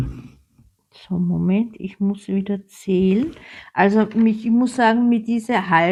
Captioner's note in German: räuspern